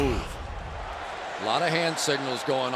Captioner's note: cheering